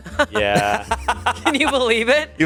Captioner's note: laughs